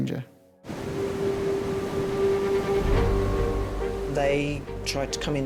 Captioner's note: soft intense music; waves crashing